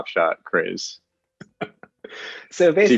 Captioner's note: chuckles